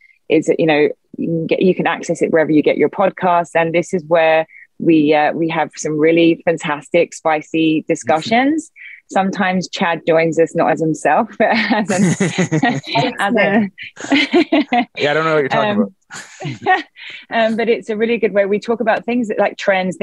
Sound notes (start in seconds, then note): 11.3 laughs